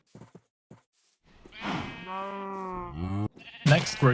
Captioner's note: cows mooing and sheep baaing